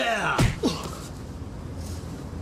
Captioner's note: thud